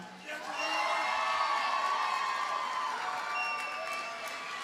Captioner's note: audience cheers and applauds